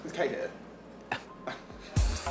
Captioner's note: scoffs